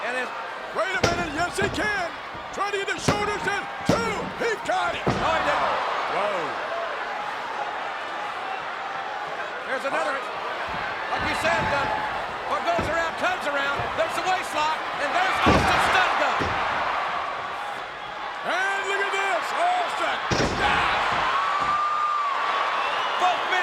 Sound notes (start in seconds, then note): 15.2 crowd cheering drowns out commentator; 20.0 crowd cheering